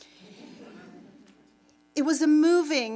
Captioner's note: audience laughing